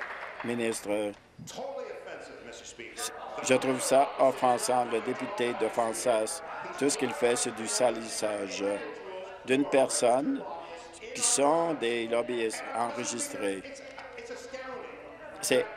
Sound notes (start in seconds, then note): 2.8 applause